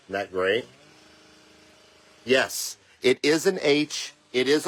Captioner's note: sound of yard equipment in the background